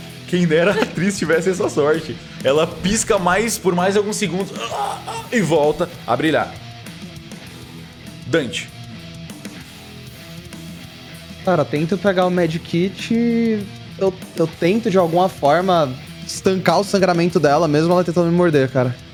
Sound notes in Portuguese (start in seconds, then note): 4.4 gemidos de dor